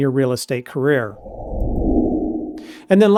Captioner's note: whoosh